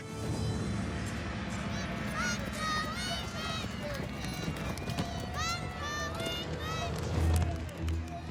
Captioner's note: children shouting